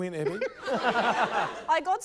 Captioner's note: laughter